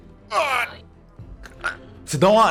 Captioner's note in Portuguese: Argh